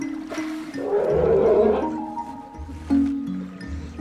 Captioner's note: roaring